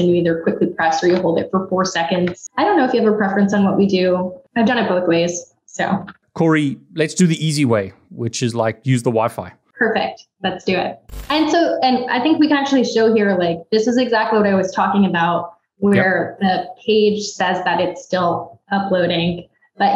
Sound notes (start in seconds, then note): 11.1 static buzzes